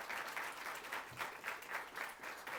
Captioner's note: applause